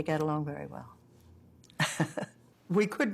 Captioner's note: laughs